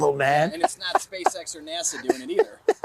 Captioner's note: laughter